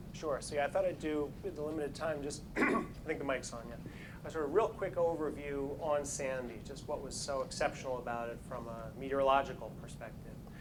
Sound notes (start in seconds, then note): 2.5 throat clearing